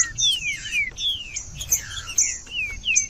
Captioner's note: trinca ferro cantando